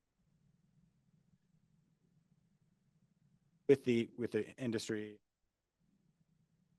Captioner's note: audio Missing